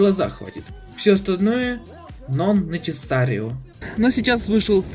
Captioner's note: speaking in Italian